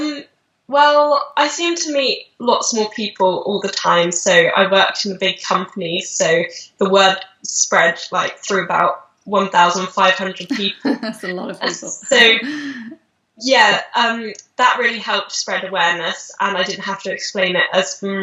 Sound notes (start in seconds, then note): 11.5 laughing